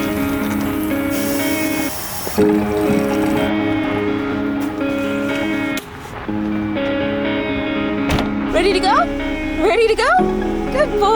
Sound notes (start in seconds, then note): 0.0 water splashing; 8.0 door slams